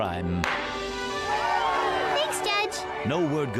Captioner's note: courtroom cheers